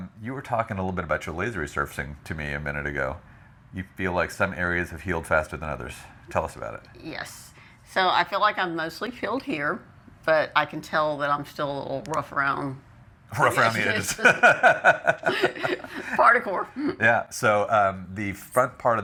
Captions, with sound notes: You were talking a little bit about your laser resurfacing to me a minute ago, you feel like some areas have healed faster than others, tell us about it. Yes, so I feel like I'm mostly filled here, but I can tell that I'm still a little rough around-- Rough around the edges. (laughing) Particle. Yeah, so the front part